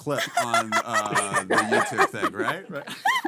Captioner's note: laughing